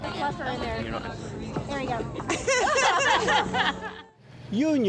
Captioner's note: laughter